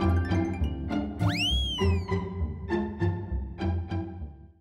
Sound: playful music; slide whistle

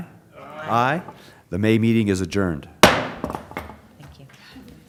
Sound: gavel

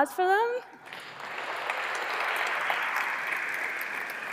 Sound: applause

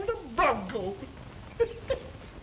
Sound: laughter

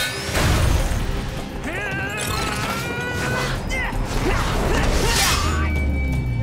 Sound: grunting

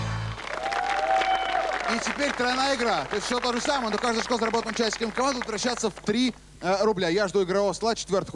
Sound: applause

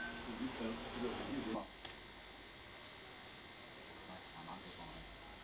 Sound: speaking in foreign language

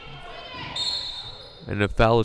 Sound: whistle blowing

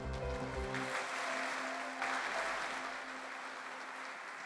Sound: applause

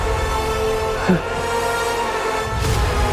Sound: chuckling

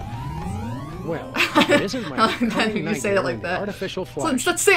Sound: laughs

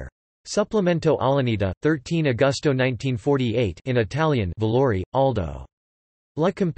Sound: in Italian

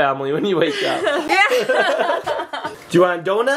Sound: all laughing

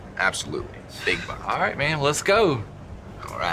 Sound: sighs

